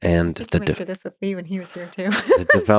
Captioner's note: faintly speaking; laughs